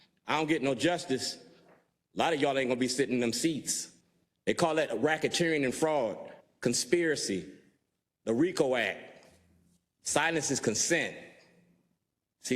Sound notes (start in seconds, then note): none